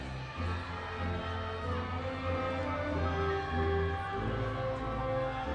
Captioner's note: audience continues cheering